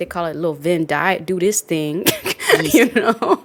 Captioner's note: laughs